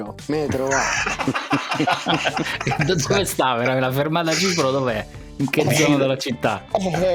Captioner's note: laughs